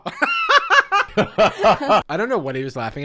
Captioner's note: laughing